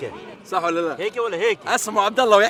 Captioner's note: Libyan accent